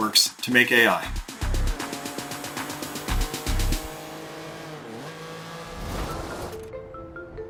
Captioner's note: car engine roaring; soft music